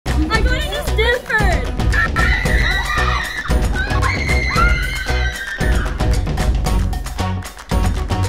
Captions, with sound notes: - I'm going to Stanford! - (screams) (upbeat music)